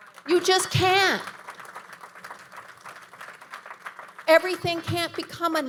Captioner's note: audience applauding